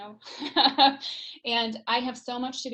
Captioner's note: laughs